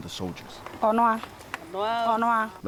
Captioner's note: speaking in foreign language